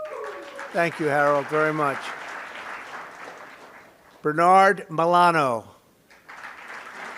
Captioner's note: applause